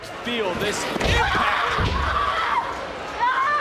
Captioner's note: screams in pain